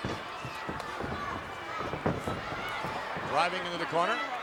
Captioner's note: feet stomping